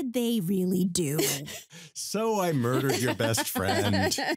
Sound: nonchalantly

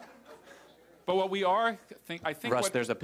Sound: laughter

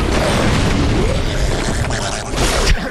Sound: gurgling

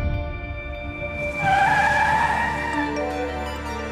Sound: tires screeching

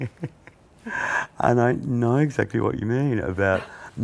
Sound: laughs

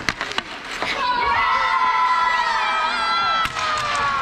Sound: cheering

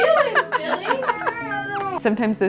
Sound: laughs

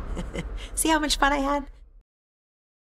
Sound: laughing

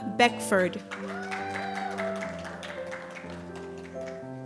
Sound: applause

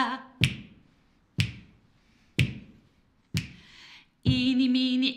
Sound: finger click x4

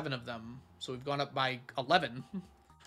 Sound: chuckles

